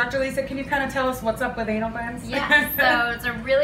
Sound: laughs

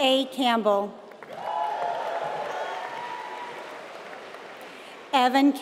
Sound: applause

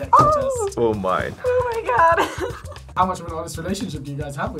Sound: laughs

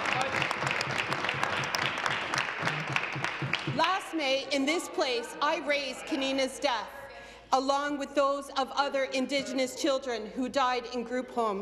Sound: applause

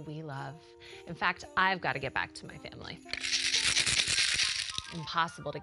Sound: rattles snow globe

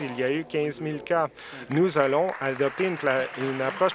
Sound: applause

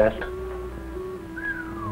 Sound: whistles

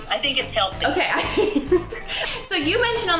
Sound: laughing

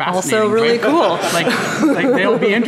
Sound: laughing

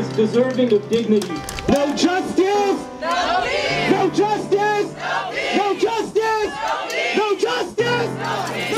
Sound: chanting; crowd chanting

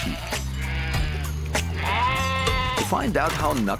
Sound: sheep bleating

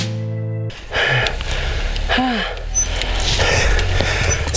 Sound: deep Breathing

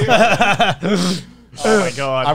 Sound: laughing

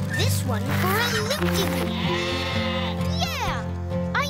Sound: sheep baaing

